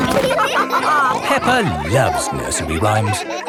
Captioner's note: all laughing